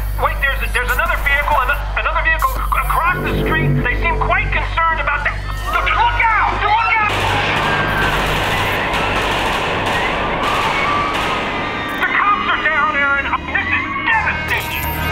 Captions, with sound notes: Wait - there's a there's another vehicle a- another vehicle across the street. They seem quite concerned about that - look out! [Gunfire] The cops are down, Erin. This is devastating!